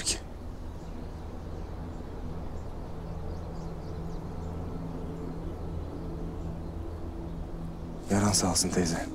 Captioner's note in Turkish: Uğultu ve kuş cıvıltıları